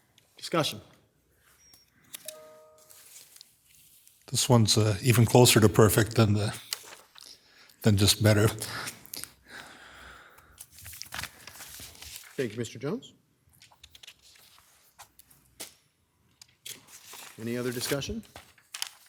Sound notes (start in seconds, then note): 2.2 device chiming